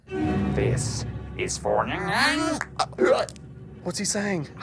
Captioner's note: alien noises